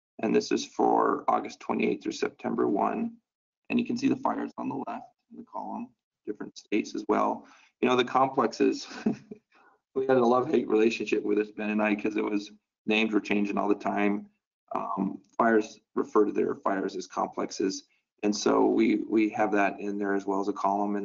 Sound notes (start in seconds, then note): 8.4 chuckles